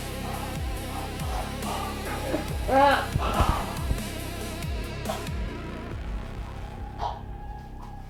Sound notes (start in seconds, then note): 0.0 suspense music playing; 0.0 heavy breathing; 3.4 groaning